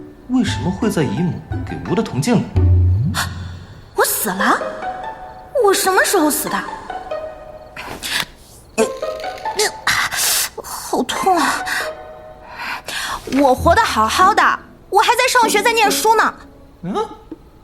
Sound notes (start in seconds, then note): 3.5 gasp